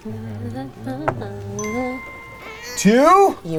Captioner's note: bell dings